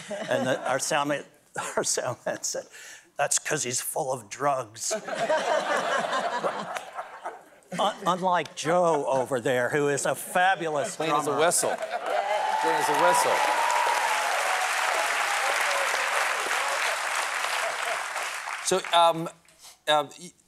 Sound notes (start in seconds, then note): 12.0 laughter